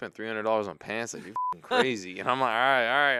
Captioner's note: beep